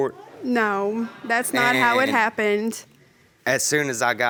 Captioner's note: stammering